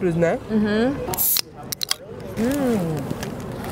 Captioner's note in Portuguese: latinha abrindo